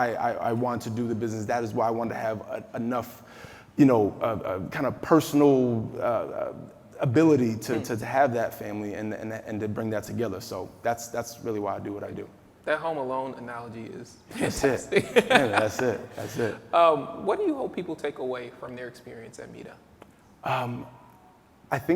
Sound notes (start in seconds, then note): 14.3 laughing